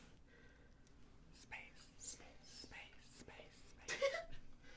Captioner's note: teehee